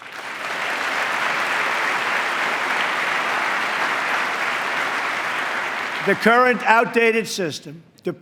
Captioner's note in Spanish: aplauso